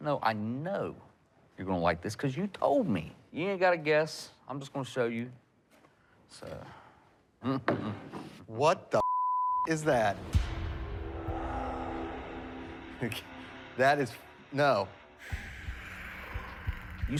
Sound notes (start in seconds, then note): 7.0 humming; 9.0 beep; 9.8 intense music